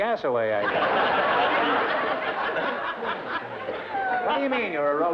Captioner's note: laughter